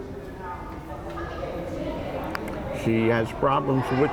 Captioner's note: crowd chattering